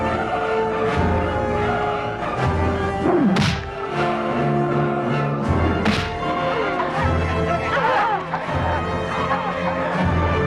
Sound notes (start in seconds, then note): 3.5 sword smacking; 7.3 courtesans clamoring